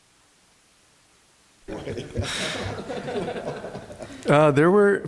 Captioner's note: laughter